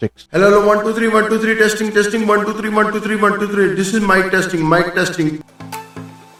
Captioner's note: microphone Testing Sound Echo Mode